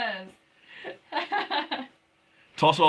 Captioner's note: laughing